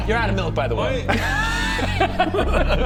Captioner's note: laughs